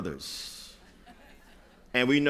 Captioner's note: laughter